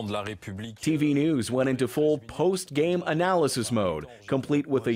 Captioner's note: speaking French